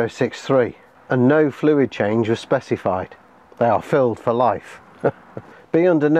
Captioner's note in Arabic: يضحك